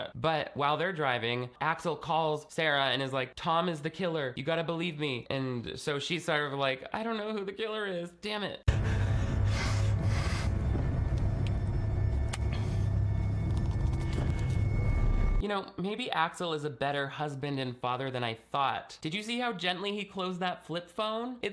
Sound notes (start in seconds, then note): 8.6 Axel breathing deeply; 8.6 dramatic music